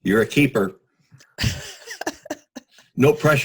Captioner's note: laughs